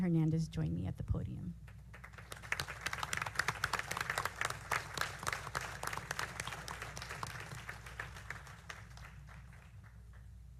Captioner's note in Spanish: aplausos